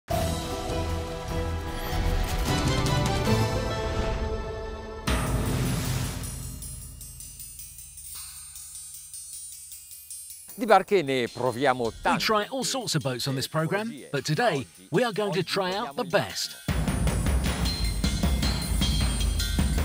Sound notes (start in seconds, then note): 0.1 intense music; 11.1 speaking Italian; 16.6 intense music